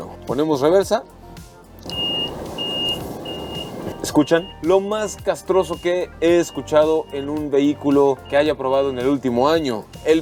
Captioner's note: beep, beep, beep